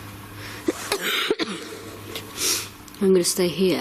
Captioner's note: coughs